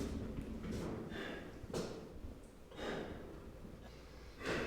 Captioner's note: Carling pants